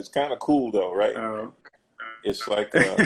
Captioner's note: glitch; laughs